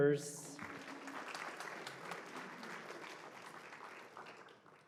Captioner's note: applause